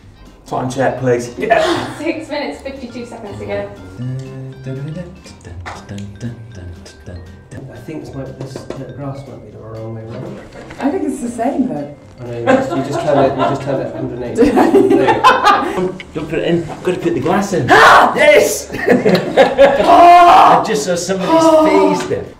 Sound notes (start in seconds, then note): 3.9 hums a tune; 14.4 laughter